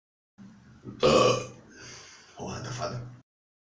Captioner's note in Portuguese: arroto